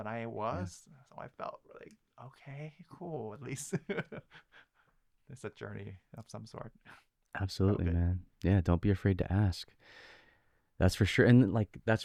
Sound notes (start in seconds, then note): 3.4 laughing